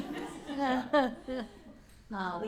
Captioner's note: laughter